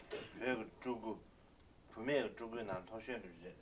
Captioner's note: non-english speech